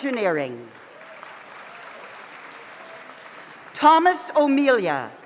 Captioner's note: audience applauds